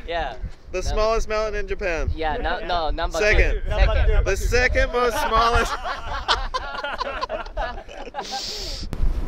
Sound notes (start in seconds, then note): 7.6 laughs